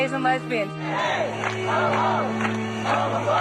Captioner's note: crowd chanting